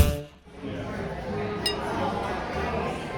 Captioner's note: glasses clink lightly